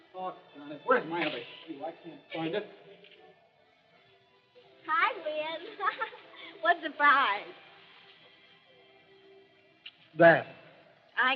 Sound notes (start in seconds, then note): 5.6 laughs